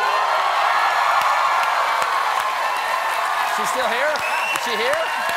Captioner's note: cheers and applause